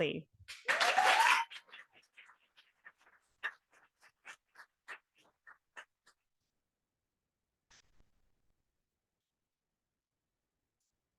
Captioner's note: audience applauding